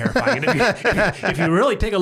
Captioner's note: laughs